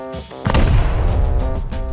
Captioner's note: boom